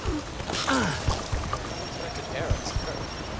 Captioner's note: grunt